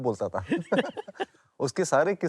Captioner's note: laugh